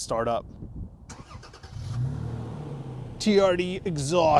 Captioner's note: vehicle engine roars